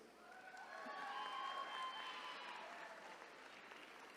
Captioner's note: attendees cheering